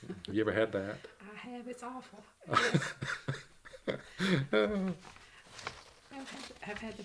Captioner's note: laughter